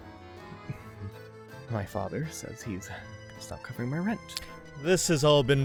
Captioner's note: softly, in American accent